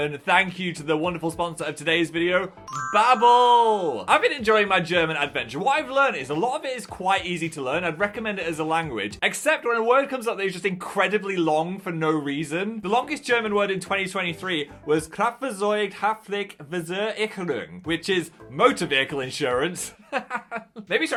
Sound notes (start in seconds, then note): 15.2 speaking in German; 20.0 laughs